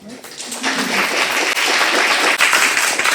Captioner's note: applauding